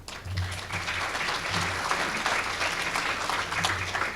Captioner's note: applause